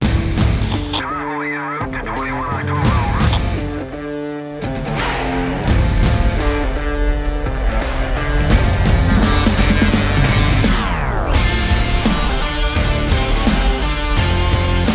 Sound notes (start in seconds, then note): 0.1 dramatic music; 1.2 radio chatter; 3.3 dramatic music